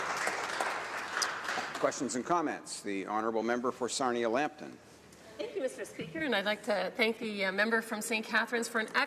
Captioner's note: applause